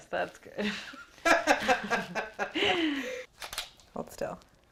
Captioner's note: laughing